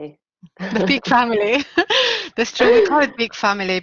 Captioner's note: laughing